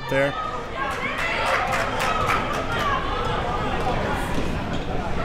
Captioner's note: crowd talking